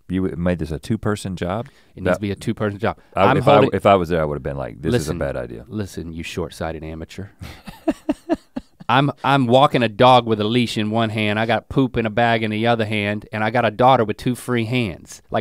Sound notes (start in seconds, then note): 7.4 Rhett chuckles